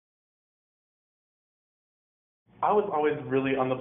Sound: pause

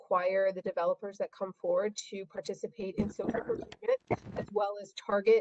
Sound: feedback

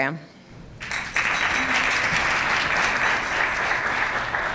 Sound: applause

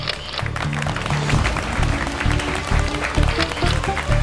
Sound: clapping

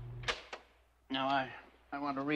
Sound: tape recorder clicks

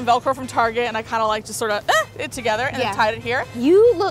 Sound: squeaks

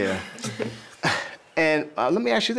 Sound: chuckling

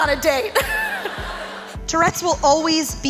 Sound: laughs

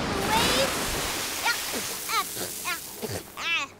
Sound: spitting

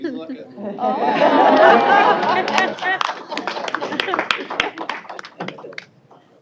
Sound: laughter; applause

